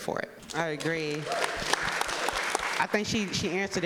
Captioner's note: audience applauding